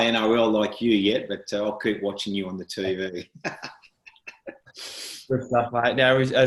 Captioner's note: laughs